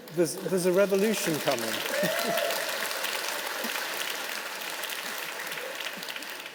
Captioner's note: audience clapping and cheering